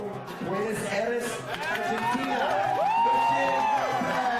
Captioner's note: people applauding